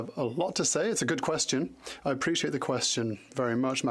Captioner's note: speaking French